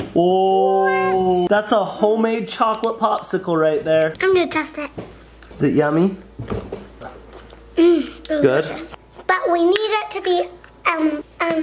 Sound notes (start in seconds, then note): none